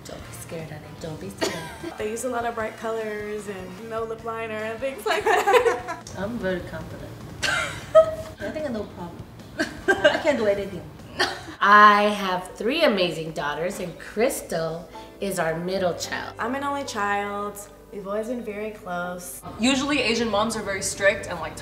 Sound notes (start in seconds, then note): 5.0 laughs; 7.4 daughter laughs